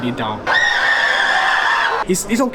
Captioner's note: screaming